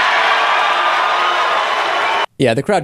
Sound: mixed crowd reaction

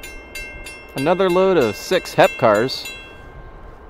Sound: bell stops

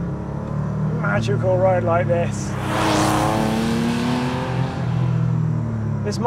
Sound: engine roars

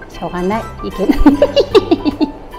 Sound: laughs

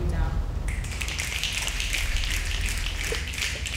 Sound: snapping

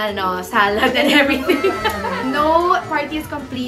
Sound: laughs

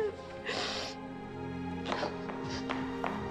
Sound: Linda sobbing

